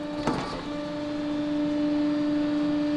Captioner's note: machine whirring